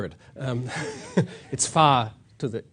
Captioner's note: laughs